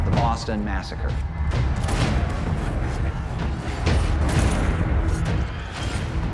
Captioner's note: yelling; gunfire, knives stabbing